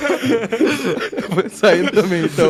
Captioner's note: laughs